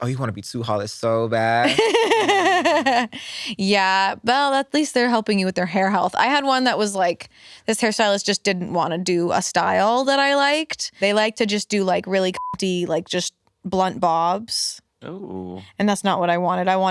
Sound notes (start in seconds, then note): 1.6 laughs; 12.3 beep